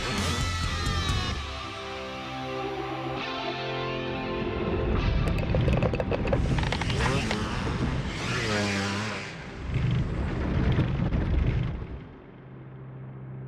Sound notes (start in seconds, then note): 6.7 engine roaring